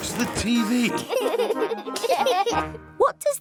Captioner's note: laughter